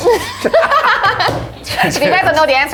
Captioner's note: all laughing